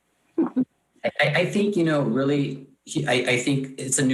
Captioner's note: laughs